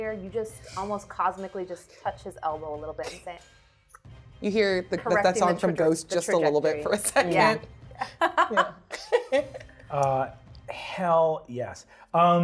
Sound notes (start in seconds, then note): 8.0 laughs